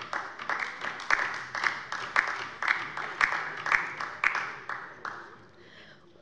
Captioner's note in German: Beifall bei der LINKEN